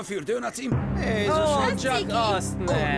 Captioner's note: chattering